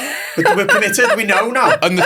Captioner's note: laughs